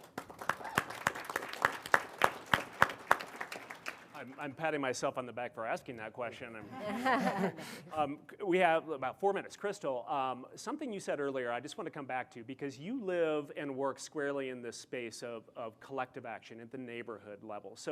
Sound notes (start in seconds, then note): 0.0 audience applauding; 6.7 panel laughing